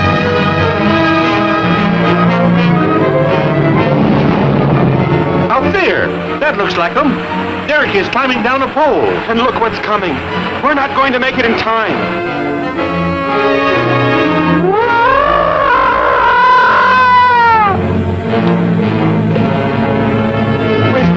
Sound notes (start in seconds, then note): 5.5 dramatic music; 5.5 car rumbling; 17.1 gargon growling